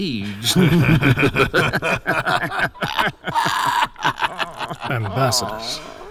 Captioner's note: laughing creepily